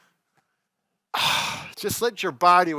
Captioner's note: exhales